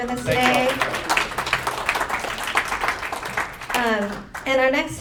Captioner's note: applause